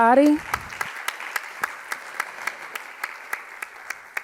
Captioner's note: audience clapping